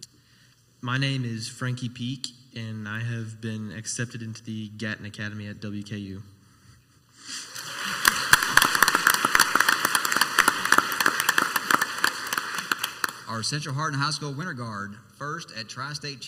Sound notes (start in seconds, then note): 7.4 crowd applauds